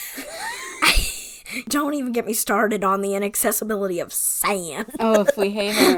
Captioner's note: wheeze laughing